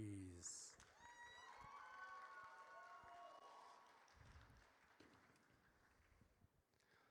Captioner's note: audience cheers